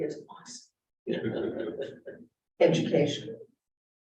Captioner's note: laughter